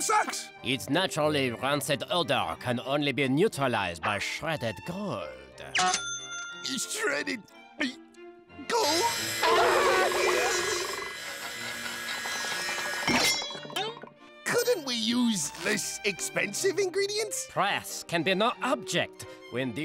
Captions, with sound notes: Its naturally rancid odor can only be neutralized by shredded gold. Shredded... gold? [screaming] Couldn't we use less expensive ingredients? Price can be no object when dealing